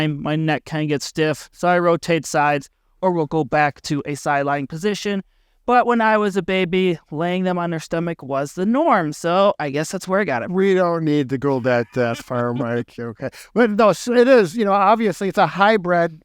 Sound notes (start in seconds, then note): 13.0 laughing